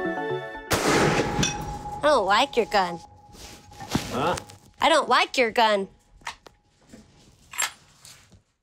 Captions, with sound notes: (gun shot) - I don't like your gun. - Huh? - I don't like your gun.